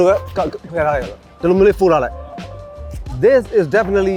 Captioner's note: speaking in foreign language